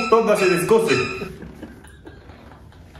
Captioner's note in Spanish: risas